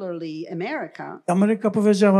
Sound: foreign language

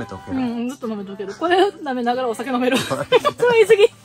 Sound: laughs

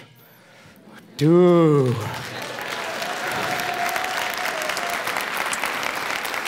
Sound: foreign speaking; applauds

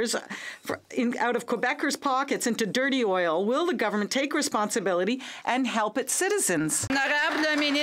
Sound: some Applause

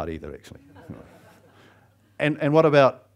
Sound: audience laughs

